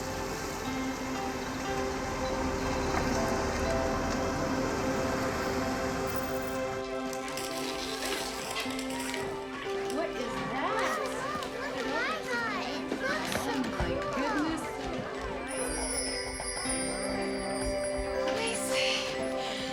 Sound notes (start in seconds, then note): 8.6 all chattering; 15.4 chimes ringing